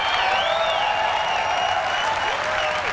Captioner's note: applause